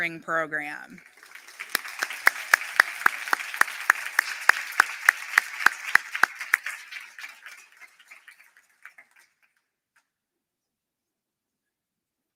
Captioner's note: applause